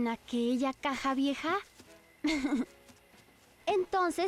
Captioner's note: giggling